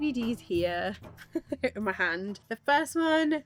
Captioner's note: laughs